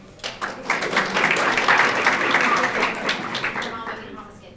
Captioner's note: audience applauding